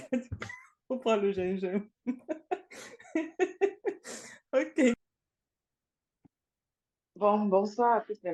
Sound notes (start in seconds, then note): 2.0 laughs